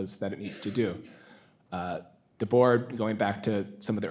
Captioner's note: attendee coughing